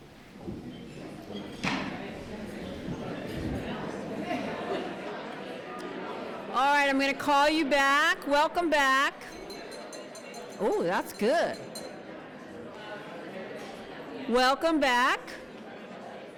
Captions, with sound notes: All right, I'm going to call you back. Welcome back. [TAPPING ON GLASS] Oh, that's good. Welcome back.